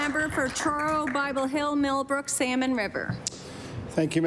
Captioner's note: applause